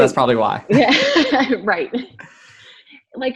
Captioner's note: laughs